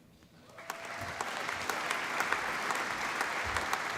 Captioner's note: applause